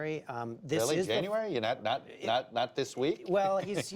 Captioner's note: laughter